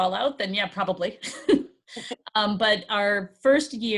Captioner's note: chuckling